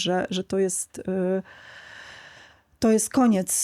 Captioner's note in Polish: westchnienie; wciągnięcie powietrza